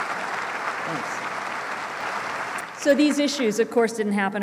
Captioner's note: applause